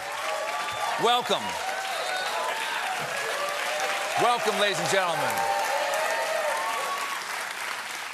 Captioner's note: cheers and applause